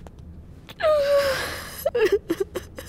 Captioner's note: Crying